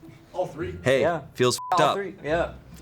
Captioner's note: beep